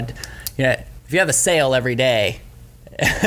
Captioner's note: chuckles